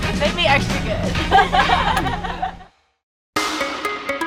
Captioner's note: laughing